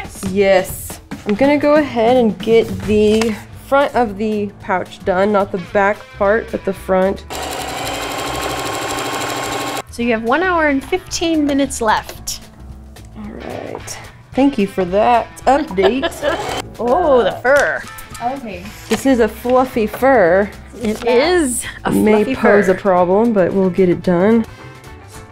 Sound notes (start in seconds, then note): 7.3 sewing machine roaring; 15.5 laughs; 25.1 snappy horn music